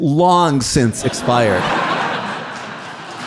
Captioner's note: audience laughing; audience clapping